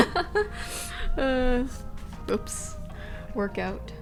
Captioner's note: laughing